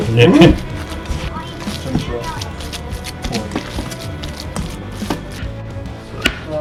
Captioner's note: squishy patty sounds